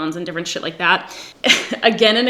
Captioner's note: giggles